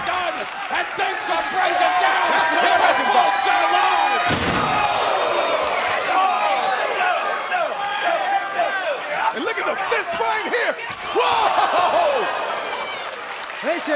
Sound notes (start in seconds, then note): 3.4 crowd cheering